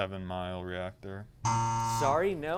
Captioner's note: buzz